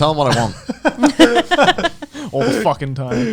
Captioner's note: all laughing